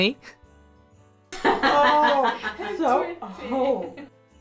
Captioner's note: laughs; everybody laughing